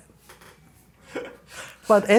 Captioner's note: laughing